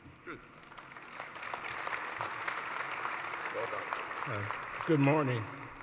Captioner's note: applause